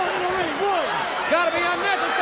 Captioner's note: crowd cheering